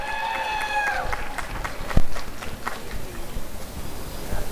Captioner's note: applause and cheering